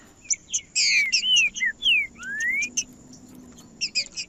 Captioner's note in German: trinca ferro cantando